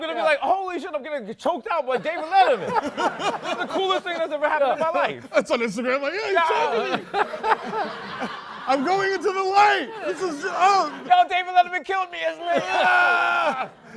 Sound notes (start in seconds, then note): 8.1 laughter